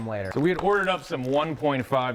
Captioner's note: plastic rustling